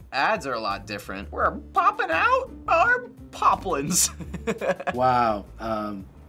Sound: in high pitch; chuckles

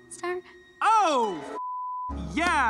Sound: beep

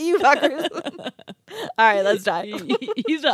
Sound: group laughs

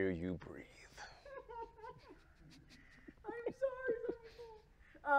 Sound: producer keeps laughing

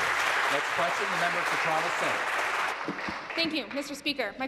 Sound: applause

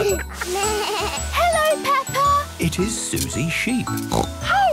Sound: bleating; snorting

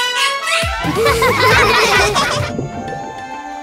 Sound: laughing

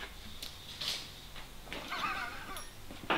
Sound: laughs

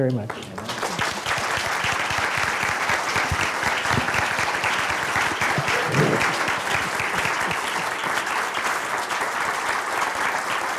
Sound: applause

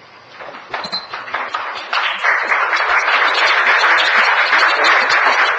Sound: audience applauding

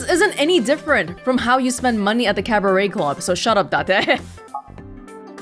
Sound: chuckles

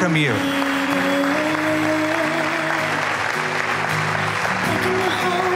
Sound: applause

